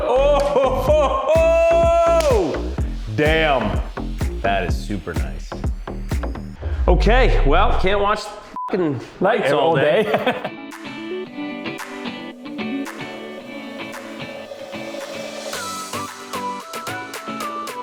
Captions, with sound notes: (laughs) - Damn. That is super nice. Okay well, can't watch the (beep) lights all day. (laughs) (soft music playing)